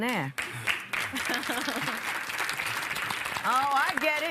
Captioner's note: applause